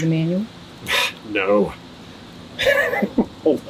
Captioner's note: laughing